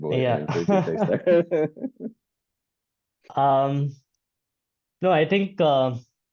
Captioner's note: chuckles